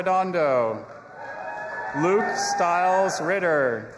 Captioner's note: audience applauding and cheering